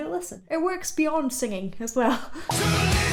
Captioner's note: laughing